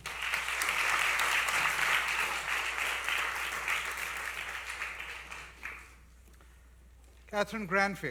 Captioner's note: applause